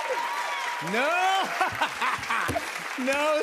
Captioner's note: laughs